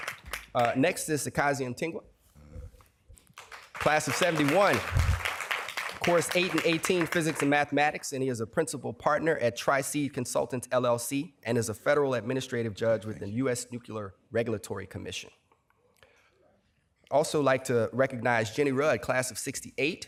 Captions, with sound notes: Next is Sekazi Mtingwa, class of '71. [applause] Course 8 and 18 physics and mathematics. And he is a principal partner at Tri C Consultants LLC, and is a federal administrative judge with the US Nuclear Regulatory Commission. Also like to recognize Jenny Rudd, class of '68.